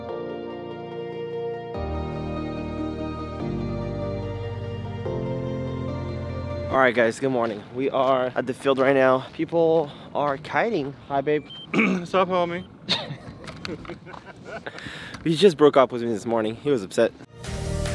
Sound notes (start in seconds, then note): 11.7 clears throat; 12.8 laughing; 17.3 upbeat electronic music